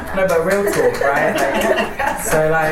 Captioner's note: laughter and applause